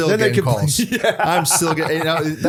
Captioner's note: laughter